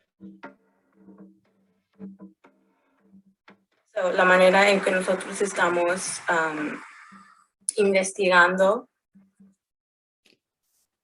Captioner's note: speaking foreign language